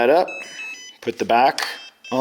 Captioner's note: beeping